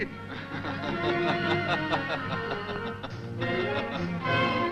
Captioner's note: laughing